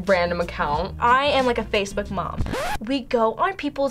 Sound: record scratch

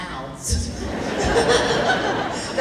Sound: laughing

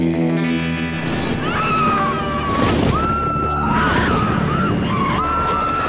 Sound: theme music; screaming; deep rumbling

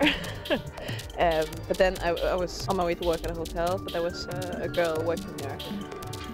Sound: laughs

